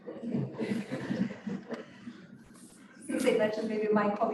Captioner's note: chuckling